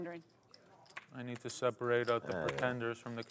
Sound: voiceover

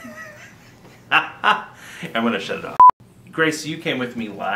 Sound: laughs

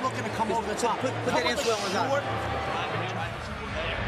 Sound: chatter

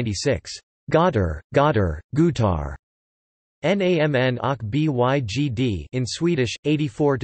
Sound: in Swedish

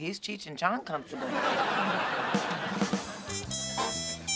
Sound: laughter

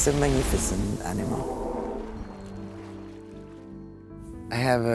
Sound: whale blow

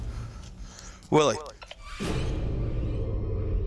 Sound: echoing; suspenseful music playing

